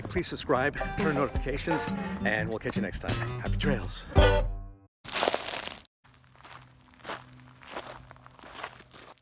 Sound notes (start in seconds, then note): 5.0 foot crunches gravel; 6.0 footsteps continue